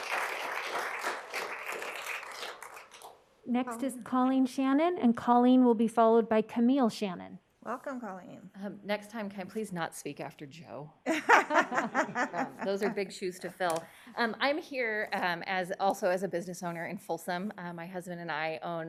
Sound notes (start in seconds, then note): 2.5 applause